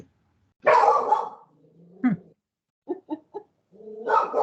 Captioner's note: dog barking